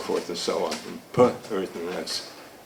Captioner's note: speaking foreign language